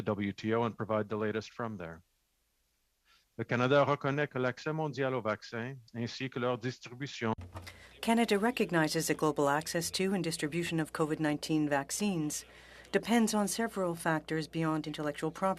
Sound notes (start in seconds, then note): 13.7 speaking French